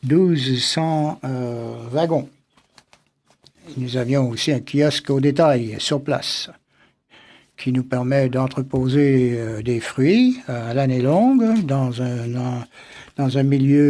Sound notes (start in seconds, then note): 0.9 speaking French